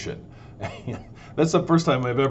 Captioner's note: laughs